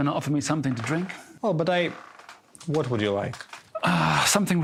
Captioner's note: sighs